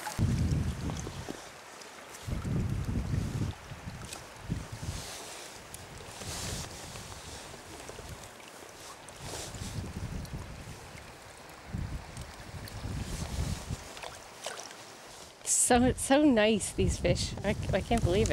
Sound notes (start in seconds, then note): 6.2 wind whirling